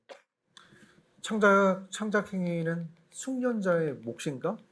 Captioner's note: speaking korean